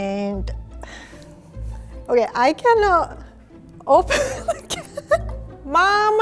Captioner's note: laughs